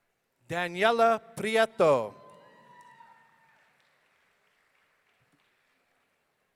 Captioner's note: audience cheering